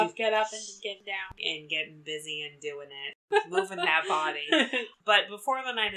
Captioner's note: laughs